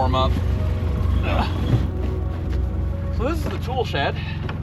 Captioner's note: engine grumbling; host grunting